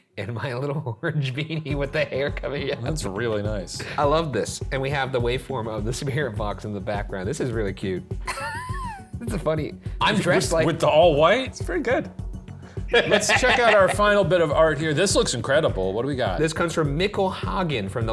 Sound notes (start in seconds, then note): 2.5 laughs; 8.2 laughs